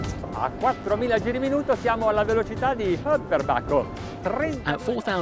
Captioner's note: foreign language